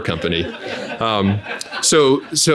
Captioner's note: audience laughing